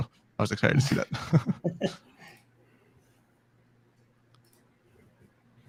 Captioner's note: laughing